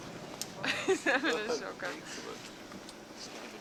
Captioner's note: laughs